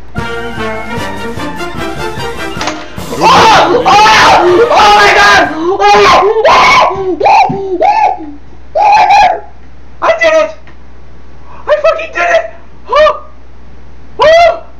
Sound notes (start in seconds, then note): 0.0 theme plays; 5.9 muffled freakout